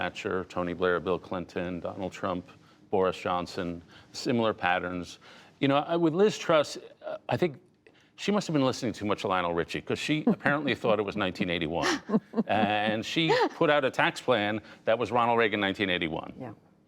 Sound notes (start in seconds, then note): 11.8 laughter